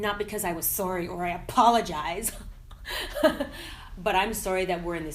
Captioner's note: laughing